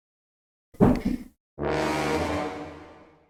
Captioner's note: more annoyed sound effect